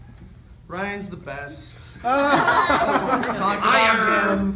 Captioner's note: laughter